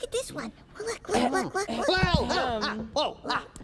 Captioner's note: yells